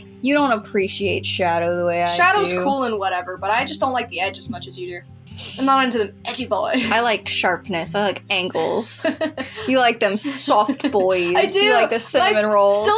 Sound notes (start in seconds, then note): 5.3 chuckle; 8.5 laugh